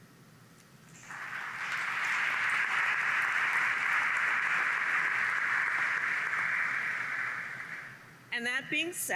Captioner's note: applause